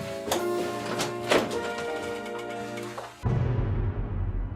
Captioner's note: opening door